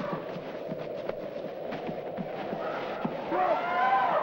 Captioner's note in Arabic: تهب الرياح